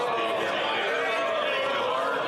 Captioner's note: some Applause